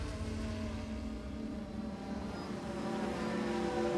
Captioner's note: buzzing